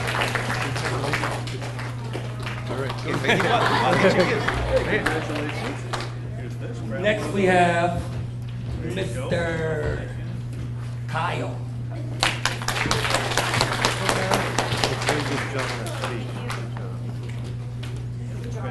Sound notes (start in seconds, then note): 3.2 audience cheers and applauds; 12.1 audience applauds